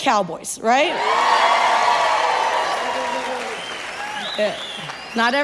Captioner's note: audience claps and cheers